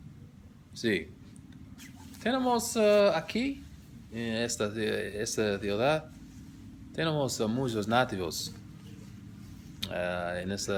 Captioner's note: spanish